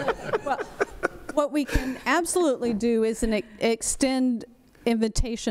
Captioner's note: laughter